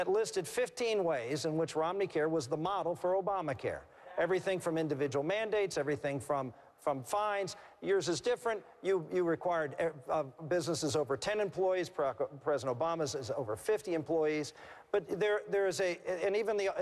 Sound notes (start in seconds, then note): none